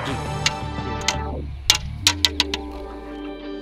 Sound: thud

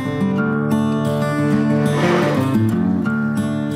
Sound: sound of metal bumper scraping asphalt

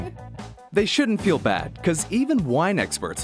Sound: voiceover

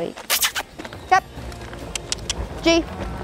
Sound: clicking with mouth

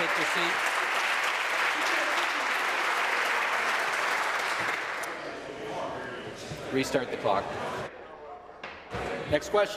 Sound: applause

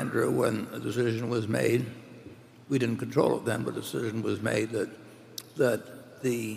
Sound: none

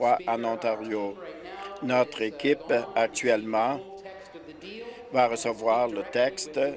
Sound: none

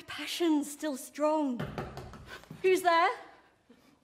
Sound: a rap on the door

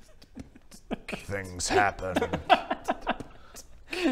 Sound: beatboxing

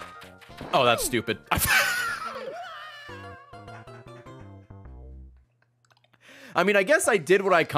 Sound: laughs

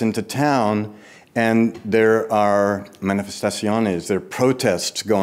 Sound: speaks in foreign language

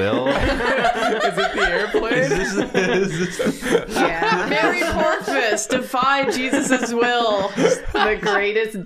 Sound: laughter

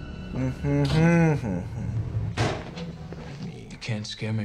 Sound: hums

